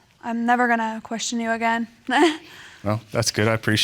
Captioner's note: chuckles